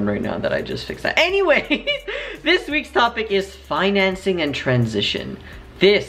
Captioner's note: laughs